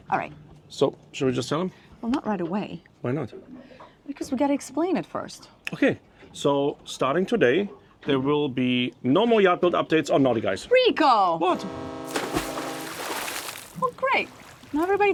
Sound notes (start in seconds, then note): 11.3 horn honking; 12.0 water splashing